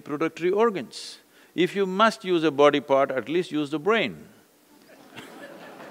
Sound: laughter/Applause

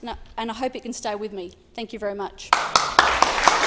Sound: applause

